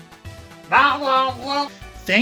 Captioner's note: responds in Beaglespeak